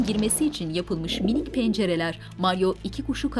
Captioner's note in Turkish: Güvercin sesi